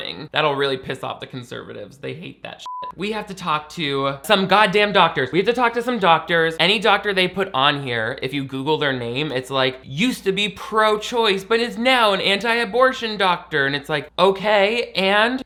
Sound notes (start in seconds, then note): 2.6 beep